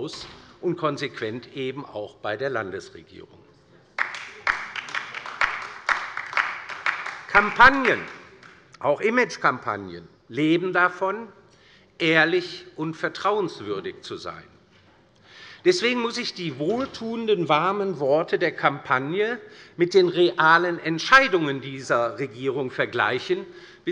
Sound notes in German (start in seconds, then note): 3.9 Beifall bei der LINKEN